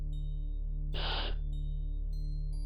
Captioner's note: sigh